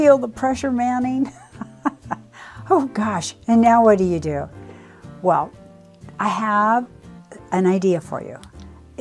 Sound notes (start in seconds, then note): 1.3 chuckles